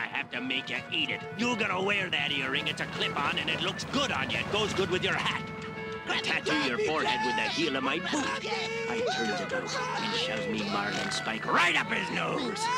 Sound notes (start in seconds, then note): 8.5 screaming